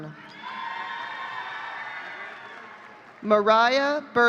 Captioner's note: audience cheering